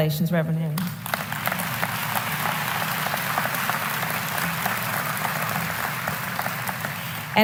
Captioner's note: applause